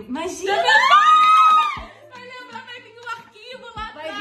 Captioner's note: both Screaming